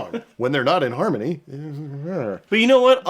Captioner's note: grumbles